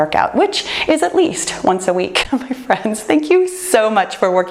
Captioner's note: chuckles